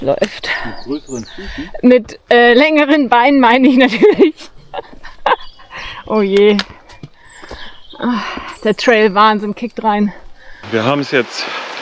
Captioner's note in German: gelächter